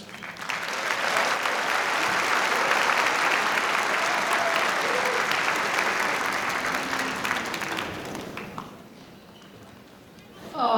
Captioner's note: applause